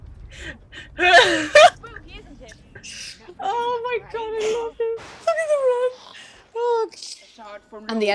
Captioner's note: laughing; laughter